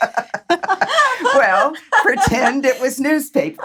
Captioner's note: both laugh